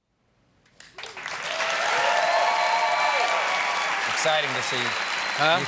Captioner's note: cheers and applause